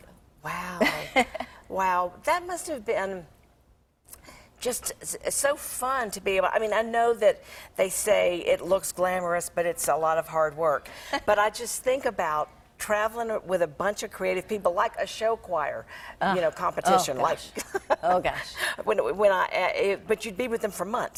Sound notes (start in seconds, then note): 17.5 laughing